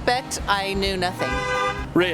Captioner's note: honk